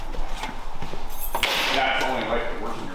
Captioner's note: keys clatter